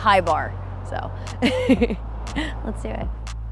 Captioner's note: laughing